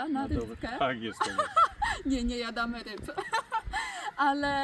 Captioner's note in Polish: śmiech